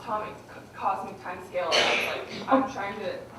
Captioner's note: audience member coughing